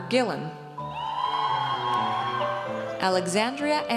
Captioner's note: audience cheers